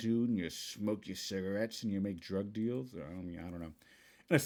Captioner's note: in Goblin